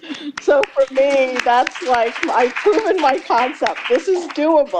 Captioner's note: laughter; applause